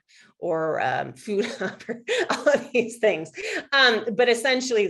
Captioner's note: laughs